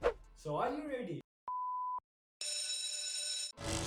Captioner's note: school Bell Ringing